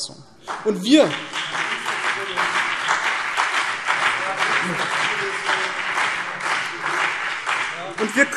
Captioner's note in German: Beifall BÜNDNIS 90/DIE GRÜNEN und CDU